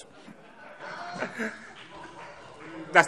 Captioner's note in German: Heiterkeit